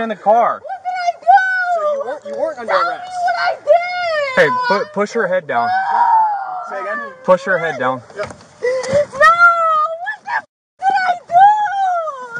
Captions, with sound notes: Get in the car. What did I do?? So you weren't, you weren't under arrest... Tell me what I diiiid! Hey, push her head down. *crying and yelling* Push her head down. Yep. Nooo, what the fu** did I dooooo!